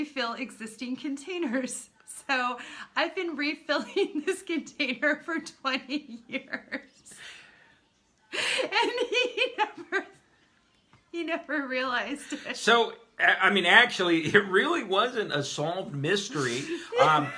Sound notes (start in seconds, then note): 1.6 laughs; 8.4 laughing; 12.8 laughing hard